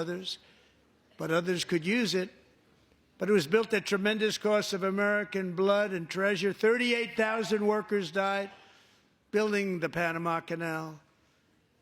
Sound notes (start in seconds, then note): none